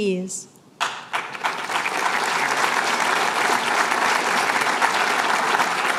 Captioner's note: applause